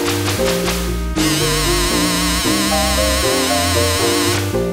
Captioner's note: bzzzzzzzzzzzzzzzzzzzzzzzzzzzzzzz